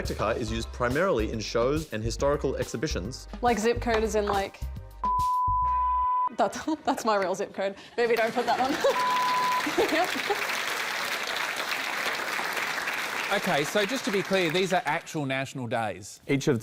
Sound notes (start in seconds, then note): 9.6 laughs; 10.9 applause